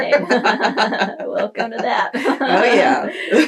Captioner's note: laughter